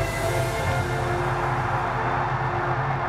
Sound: cheering

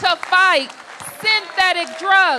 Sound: applause

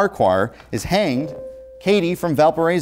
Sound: buzzer

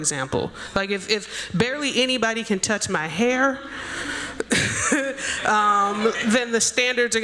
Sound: laughs

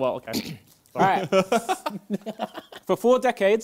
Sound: both laughing

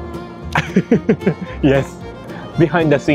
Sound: laughs

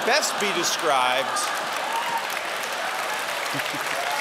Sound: cheering

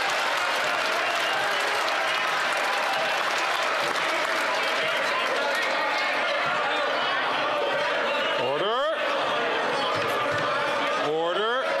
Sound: some Applause

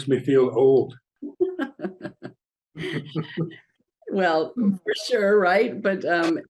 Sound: laughing

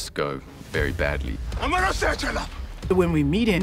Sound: speaking foreign language

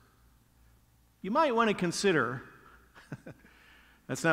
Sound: laughs

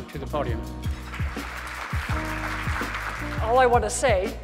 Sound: audience clapping

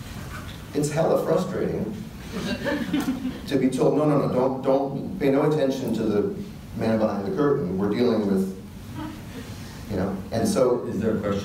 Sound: audience laughter

